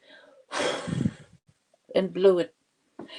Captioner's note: blows air